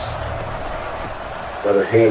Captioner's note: crowd Noises